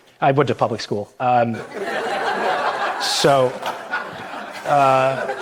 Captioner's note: audience laughter